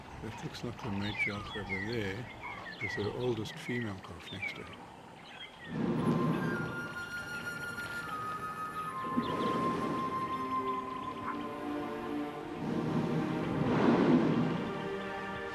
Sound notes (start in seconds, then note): 5.7 rumbling; 8.7 animals calling